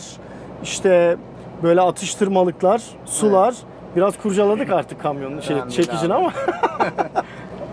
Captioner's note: laughings